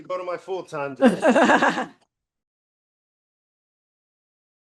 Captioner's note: laughing